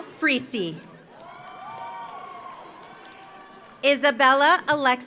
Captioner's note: audience applauds; audience cheers